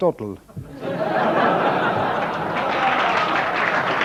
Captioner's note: audience laughing; audience applauding